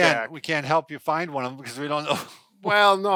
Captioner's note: laughs